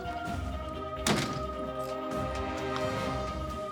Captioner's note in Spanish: Portazo